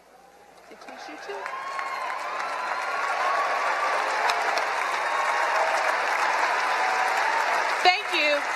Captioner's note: applause and cheering